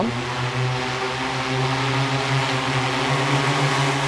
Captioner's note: plane engine buzzes